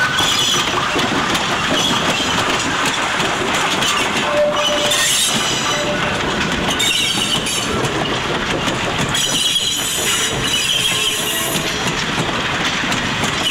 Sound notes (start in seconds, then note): 1.3 brakes squealing